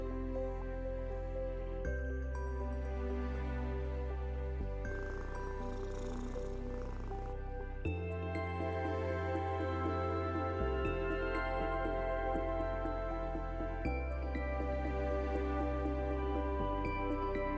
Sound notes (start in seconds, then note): 4.9 cat purring; 8.9 thoughtful music